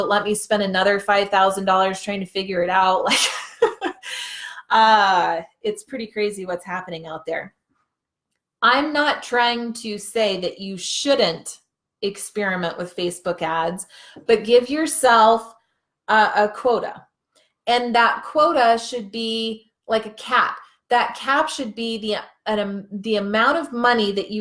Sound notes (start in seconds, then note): 3.2 laughing